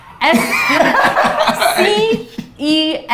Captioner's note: laughs